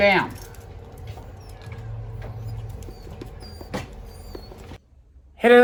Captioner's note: Ella whimpers and cries